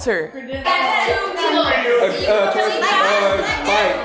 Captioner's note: guests chatter